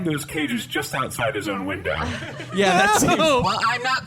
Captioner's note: audience laughter